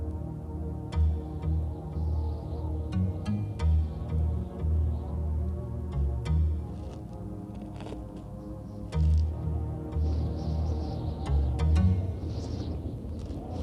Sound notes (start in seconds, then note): 1.8 wind howling; 5.3 dramatic music; 10.7 wind howling